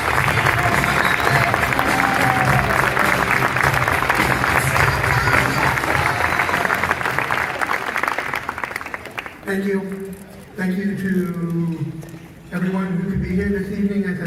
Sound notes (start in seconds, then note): 7.9 audience clapping; 7.9 upbeat rock music fades out